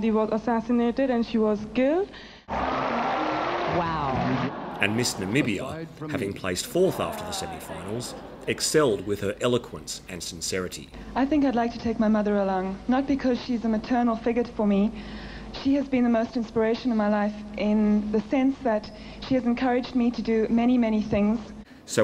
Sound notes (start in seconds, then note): 2.6 audience claps